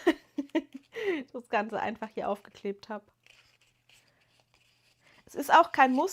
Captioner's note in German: gelächter